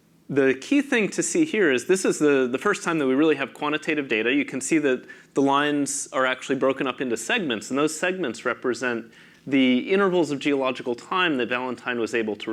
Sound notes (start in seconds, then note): none